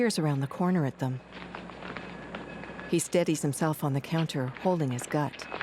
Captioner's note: faint street din